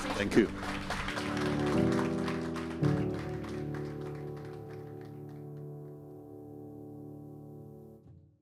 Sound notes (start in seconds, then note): 0.0 audience applauding; 0.0 gentle music